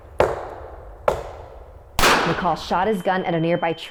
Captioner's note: knocking